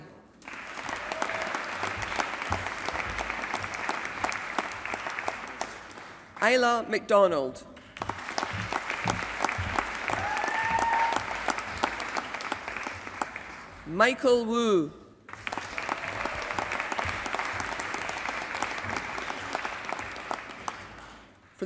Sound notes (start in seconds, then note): 0.4 applause